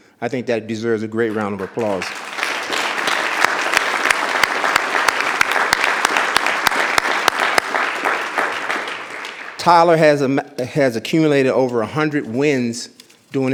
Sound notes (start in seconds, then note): 1.3 audience applause